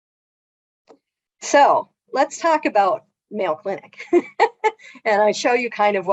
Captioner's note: laughs